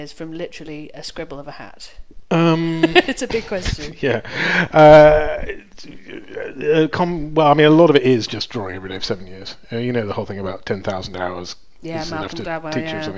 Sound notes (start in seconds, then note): 2.5 laughs; 5.5 stammers